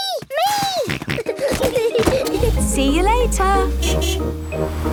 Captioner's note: kids giggling; snorting; honking